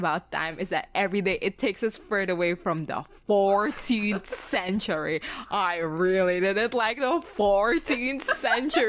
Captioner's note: laughing